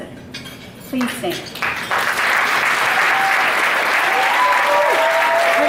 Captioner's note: audience applauding